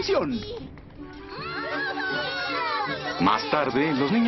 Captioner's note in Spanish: niños celebrando